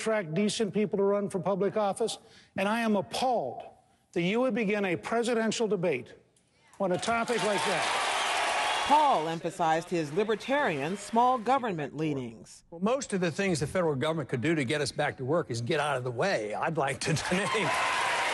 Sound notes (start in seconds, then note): 6.9 cheering and applause; 17.1 cheering and applause